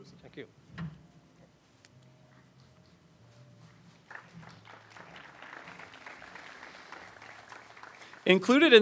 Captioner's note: applause